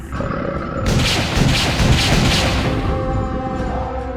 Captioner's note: creature growling; gun firing